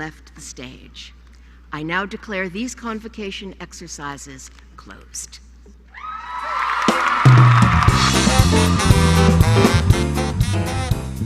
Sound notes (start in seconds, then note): 6.3 applause